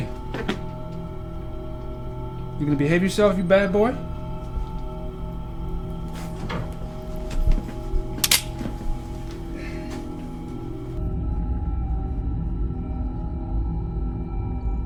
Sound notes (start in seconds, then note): 8.2 knife clicking